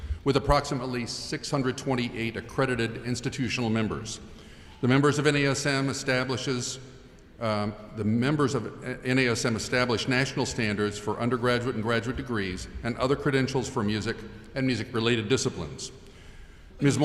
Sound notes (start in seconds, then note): none